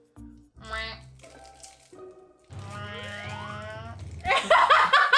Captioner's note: laughs